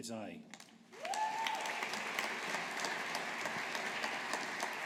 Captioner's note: audience applauding